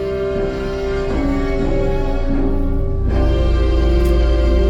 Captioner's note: swelling machine sounds